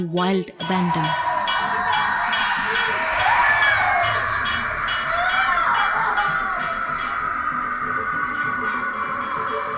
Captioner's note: dramatic music; intense bells chimes; moves into screaming